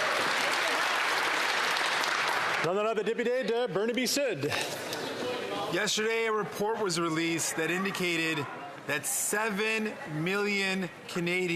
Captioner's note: some Applause